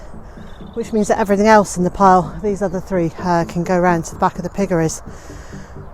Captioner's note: sigh of tiredness